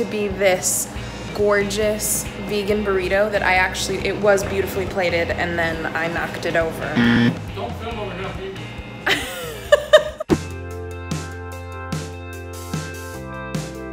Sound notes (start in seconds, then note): 9.1 laughing; 10.7 upbeat music